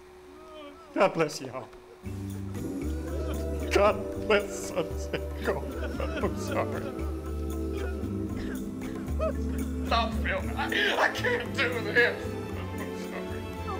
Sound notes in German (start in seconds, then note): 2.2 sanfte Musik; 6.0 Schluchzen